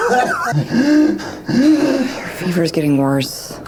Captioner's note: Miles wheezes